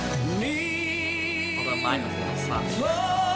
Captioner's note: laughs